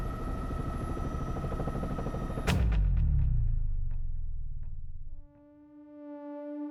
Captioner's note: helicopter blades whirring